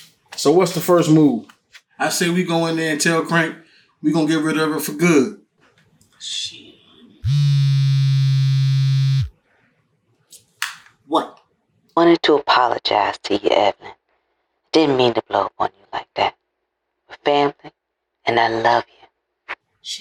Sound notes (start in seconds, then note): 7.2 phone vibrates; 11.9 Imani on phone